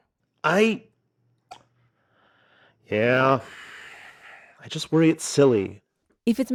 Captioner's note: sighs